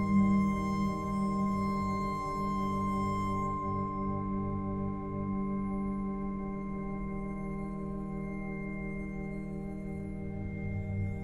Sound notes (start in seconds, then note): none